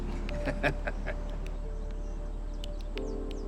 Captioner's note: laughs